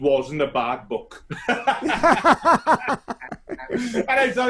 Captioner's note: both laughing